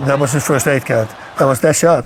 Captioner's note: crowd cheering